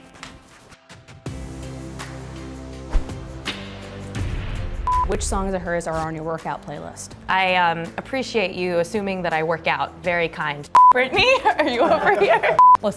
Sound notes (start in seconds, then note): 4.1 boom; 11.0 all laugh